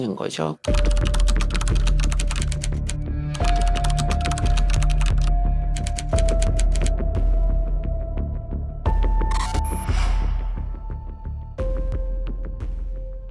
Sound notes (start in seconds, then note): 0.6 keyboard sounds; 0.7 tense music